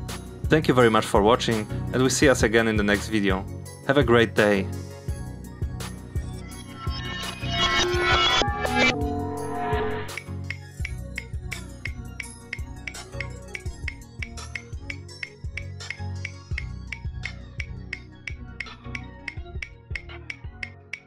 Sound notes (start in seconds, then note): 6.4 distorted clock sound playing backwards; 9.9 clock ticking